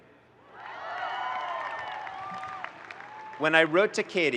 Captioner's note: audience cheering and applauding